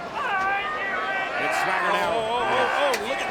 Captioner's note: Bryan yelling